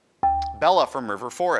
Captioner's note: buzzer dings